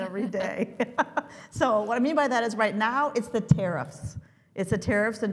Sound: laugh

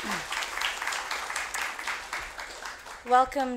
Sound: applause

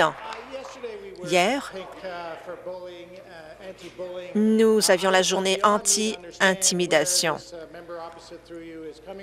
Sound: applause

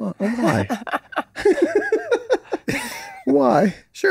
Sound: all laughing

